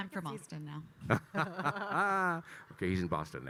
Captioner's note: laughing